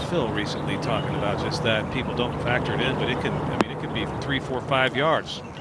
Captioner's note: course chatter